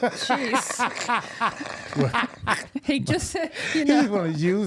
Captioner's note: laughing